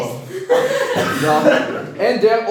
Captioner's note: laughing